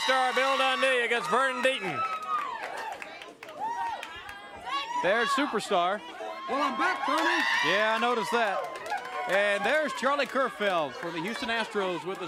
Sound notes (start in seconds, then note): 0.1 crowd cheering; 3.0 crowd cheering